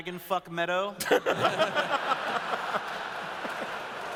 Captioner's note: laughter